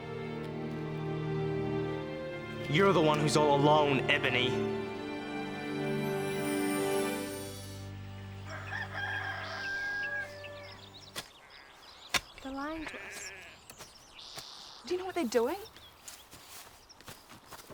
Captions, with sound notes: You're the one who's all alone, Ebony. (rooster crows) - They're lying to us. Do you know what they're doing?